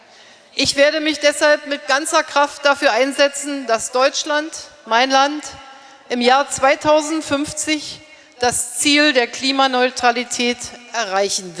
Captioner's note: speaking in German